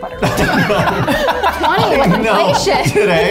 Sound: all laughing

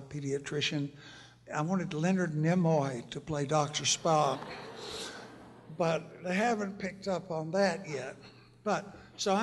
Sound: laughter

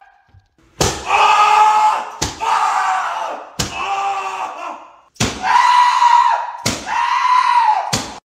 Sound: screaming

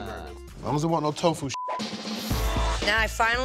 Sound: beep

